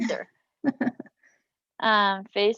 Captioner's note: chuckle